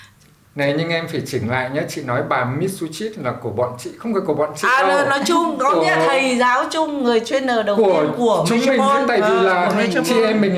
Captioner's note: laugh